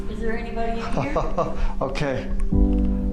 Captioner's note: laughs